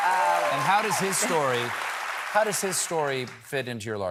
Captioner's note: applause